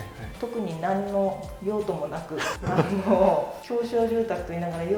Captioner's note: laughter